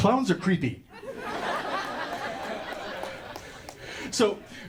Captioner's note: audience laughter and applause